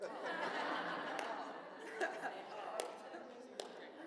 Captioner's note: audience laughs